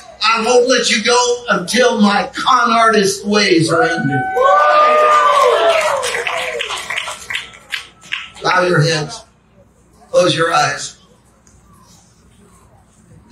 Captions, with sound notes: I won't let you go until my con artist ways are ended." (congregation cheering and clapping) Bow your heads, close your eyes.